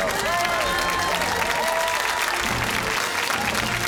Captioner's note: cheers and applause